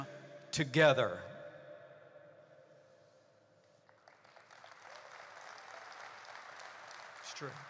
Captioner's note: applause